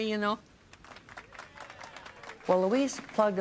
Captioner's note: applause